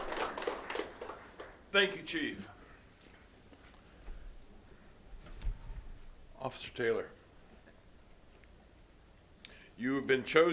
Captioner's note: applause